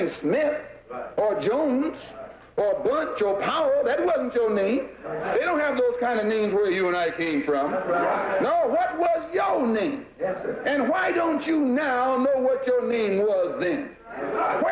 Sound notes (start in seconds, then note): 10.0 voiceover